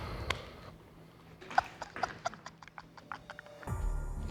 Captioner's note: laughing